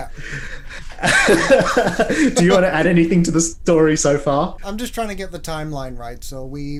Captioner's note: both laugh